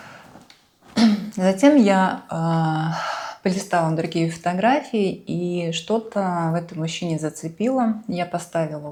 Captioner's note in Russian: откашливается